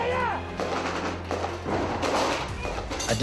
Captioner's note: gun shots